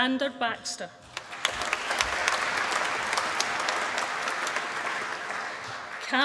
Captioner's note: applause